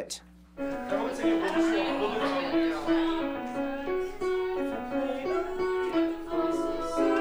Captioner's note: piano music; people chattering